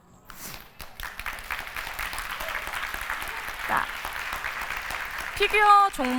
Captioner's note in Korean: 박수